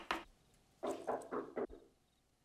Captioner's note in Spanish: tocando la puerta